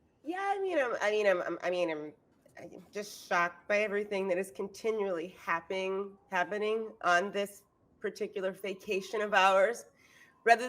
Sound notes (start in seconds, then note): none